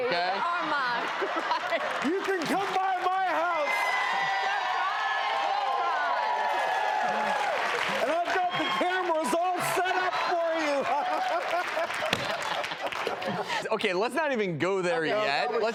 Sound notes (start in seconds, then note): 6.1 crowd cheering; 10.5 laughs